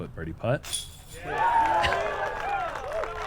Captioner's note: applause